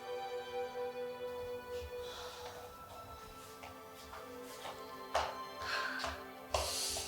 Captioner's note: Joy sighs